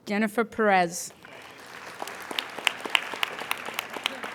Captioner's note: applauding